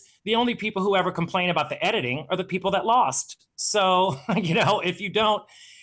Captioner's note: laughing